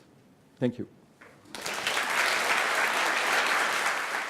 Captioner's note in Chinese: 掌聲